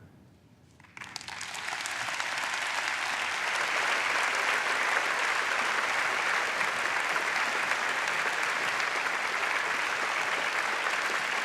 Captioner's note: applause